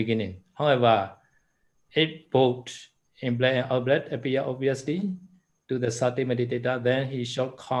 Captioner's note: in-breath and out-breath